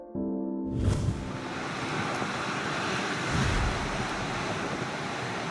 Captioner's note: fumarole background noise